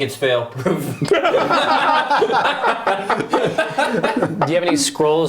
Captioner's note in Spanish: risas